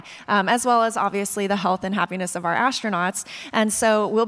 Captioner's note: none